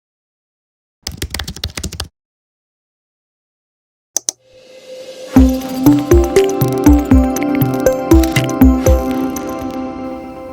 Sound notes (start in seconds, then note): 1.0 keyboard buttons clicking; 5.3 upbeat music